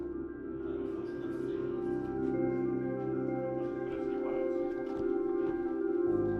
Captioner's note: team chattering